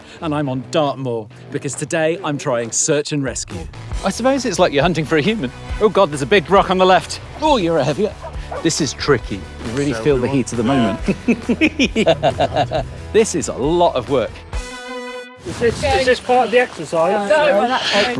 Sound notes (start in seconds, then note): 9.7 giggling